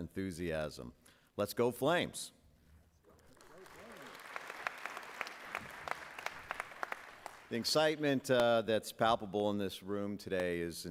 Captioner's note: applause